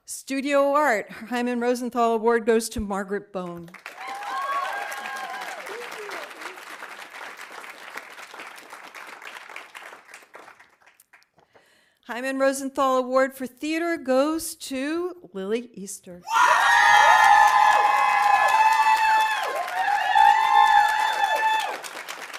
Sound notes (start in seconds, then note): 3.7 audience applauding; 3.8 audience cheering; 16.3 audience cheering; 16.6 audience applauding